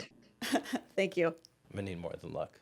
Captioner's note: laughs